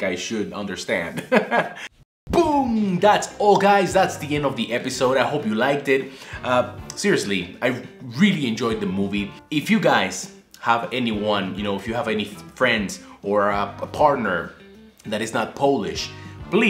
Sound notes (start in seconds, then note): 1.2 laugh